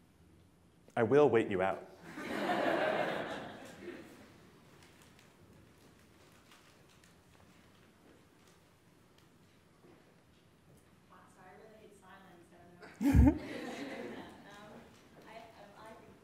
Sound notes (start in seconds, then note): 2.0 laughter